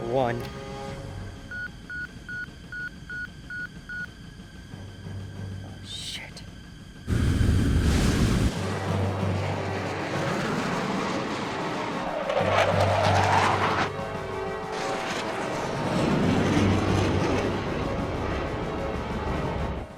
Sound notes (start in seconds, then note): 1.5 radio beeps; 7.1 aircraft whirring; 7.1 intense, dramatic music